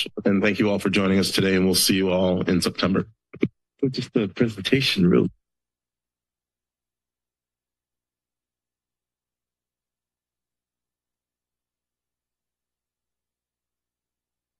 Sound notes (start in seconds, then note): 3.8 background conversations; 5.5 silence